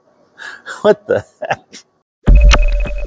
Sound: laughing

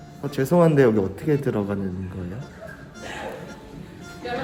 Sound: laugh

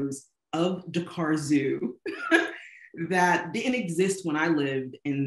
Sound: laughing

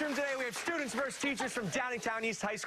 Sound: cheers and applause

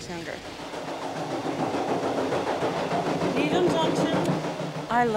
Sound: train chugging

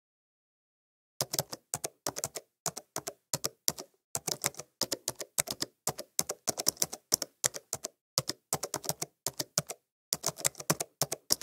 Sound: sound of typing

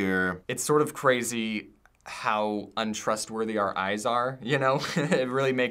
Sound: chuckles

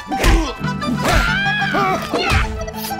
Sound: screaming

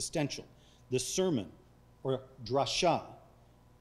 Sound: speaking foreign language

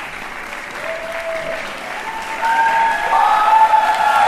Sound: cheers and applause

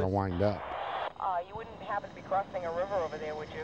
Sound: woman On Radio

